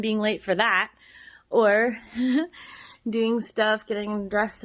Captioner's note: giggles